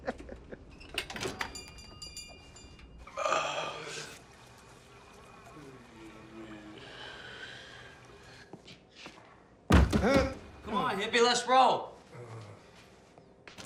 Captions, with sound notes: (bangs on the door) - Come on, hippie, let's roll!